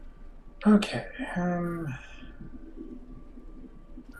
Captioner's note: sighing